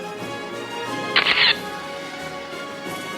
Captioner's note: camera shatters; orchestral music